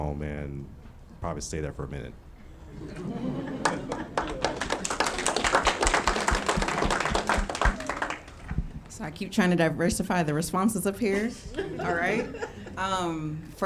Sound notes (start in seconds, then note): 3.4 audience clapping; 11.3 laughing